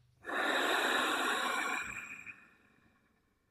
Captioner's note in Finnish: huokaus